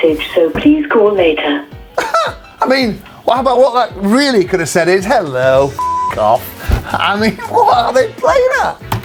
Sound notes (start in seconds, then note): 5.8 beep